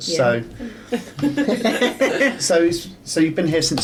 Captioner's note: laughing